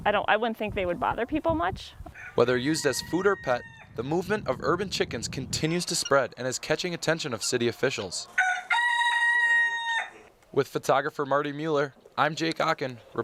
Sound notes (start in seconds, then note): 2.5 voiceover; 8.5 chicken cackle